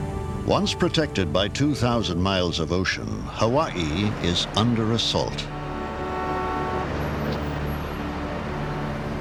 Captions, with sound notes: ONCE PROTECTED BY 2,000 MILES OF OCEAN, HAWAII IS UNDER ASSAULT. [HONK]